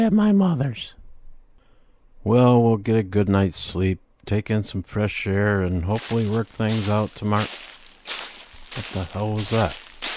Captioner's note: sound of crunchy footsteps